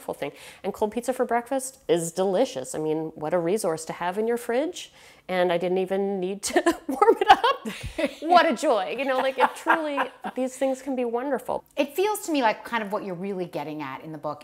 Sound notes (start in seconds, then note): 8.9 laughing